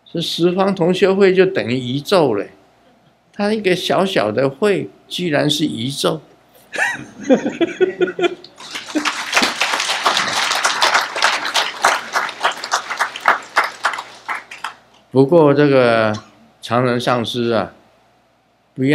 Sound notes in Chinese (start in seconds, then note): 8.5 眾鼓掌